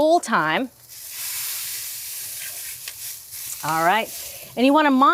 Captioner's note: grill sizzling